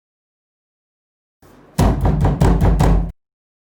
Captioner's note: someone banging the door